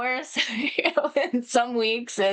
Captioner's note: laughs